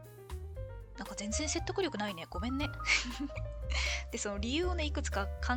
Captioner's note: laughs